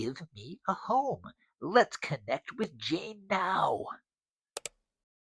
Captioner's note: mouse clicks